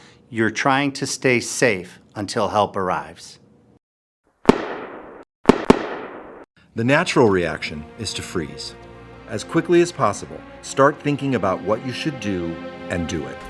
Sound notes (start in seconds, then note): 5.4 gunshots